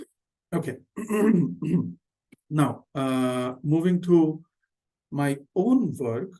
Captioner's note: clears throat